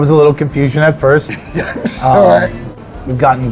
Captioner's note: laughs